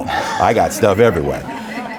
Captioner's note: audience laughing